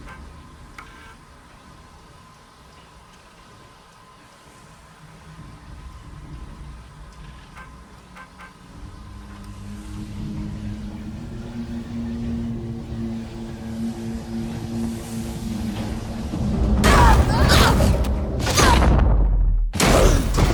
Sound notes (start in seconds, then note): 16.8 cry of alarm